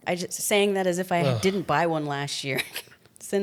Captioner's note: sighs; chuckles